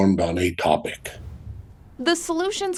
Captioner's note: air whooshes